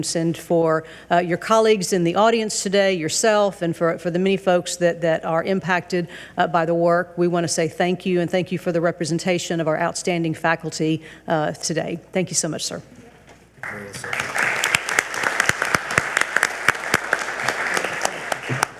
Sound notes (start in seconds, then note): 13.6 audience applauds